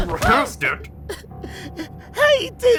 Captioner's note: toilet sobs